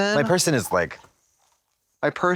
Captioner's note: Trixie gags